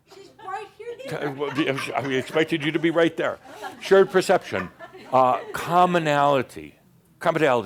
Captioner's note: some chuckles